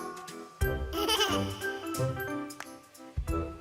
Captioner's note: hehehe